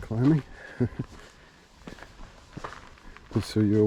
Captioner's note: chuckles